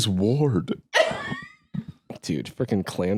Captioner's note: laughs